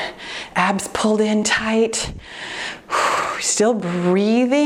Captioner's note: exhales deeply